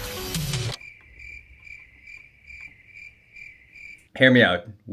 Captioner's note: crickets